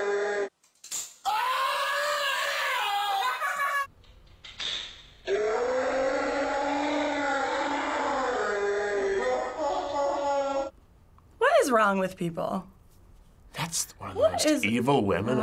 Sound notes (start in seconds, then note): 0.0 slowed down scream; 1.2 man screams; 5.2 slowed down scream